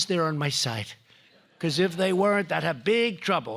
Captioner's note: laughter